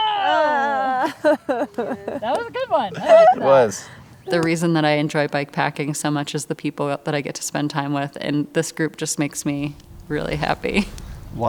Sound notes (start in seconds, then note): 0.0 laughs